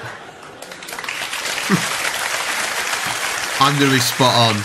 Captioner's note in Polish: Aplauz